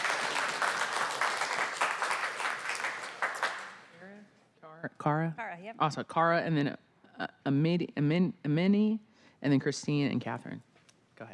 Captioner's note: applause